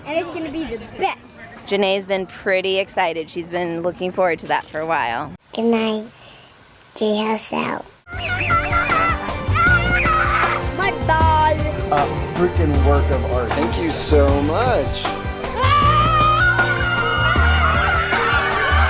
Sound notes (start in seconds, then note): 8.1 screaming; 17.2 family screaming